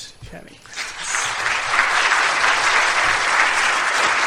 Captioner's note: applause